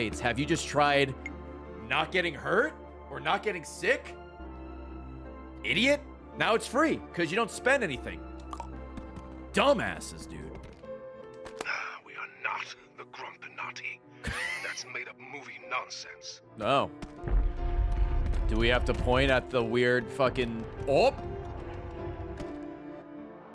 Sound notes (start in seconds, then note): 10.7 laughs